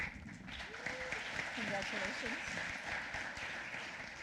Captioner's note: applause